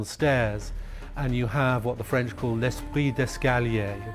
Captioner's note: speaking french